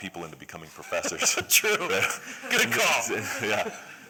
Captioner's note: laughter